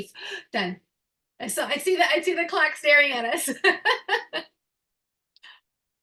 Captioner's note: chuckling